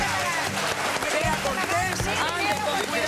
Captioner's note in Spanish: aplausos